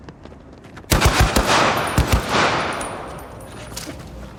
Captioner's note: footsteps thudding; gun firing